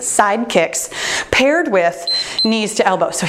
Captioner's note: timer beeps